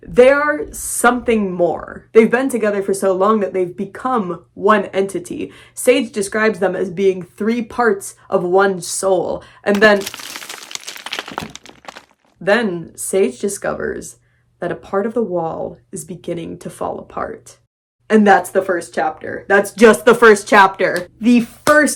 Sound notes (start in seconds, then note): 9.7 sound of rocks crumbling